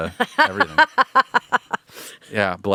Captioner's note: laughing